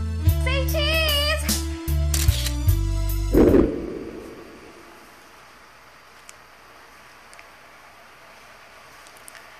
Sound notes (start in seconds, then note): 2.1 camera shutter clicks